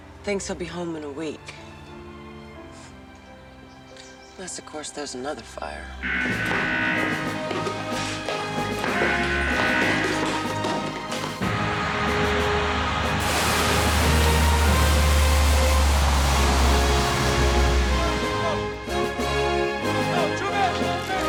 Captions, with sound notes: - Thinks he'll be home in a week. Unless of course there's another fire. (alarm buzzing) (plane engine roars)